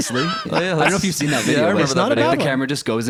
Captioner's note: laughter and crosstalk